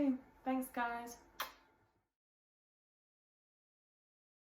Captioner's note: lips kiss